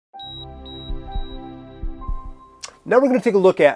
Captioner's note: heartbeat monitor beeping